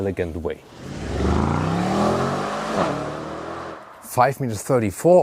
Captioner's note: engine revving